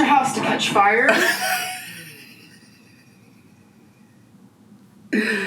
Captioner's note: laughing